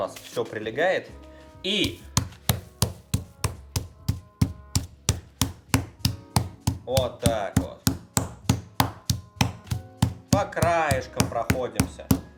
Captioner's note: smacking sounds